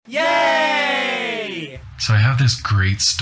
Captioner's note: cheers